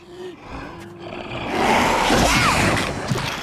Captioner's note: sneezing